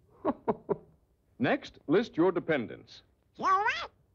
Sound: chuckles

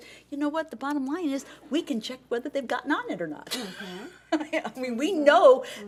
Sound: laughs

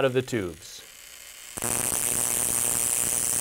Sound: buzzing

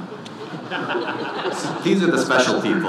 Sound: audience laughing

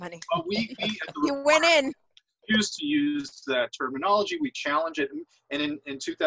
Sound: laughs

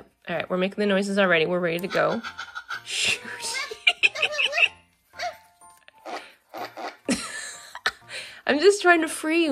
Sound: puppy pants and farts; laughs

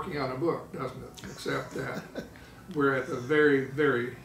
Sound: laughing

